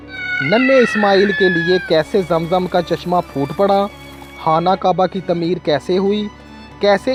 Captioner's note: screaming